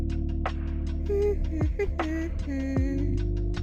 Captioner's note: humming